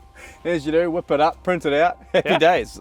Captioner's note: laughs